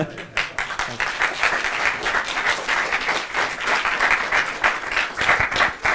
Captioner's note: applause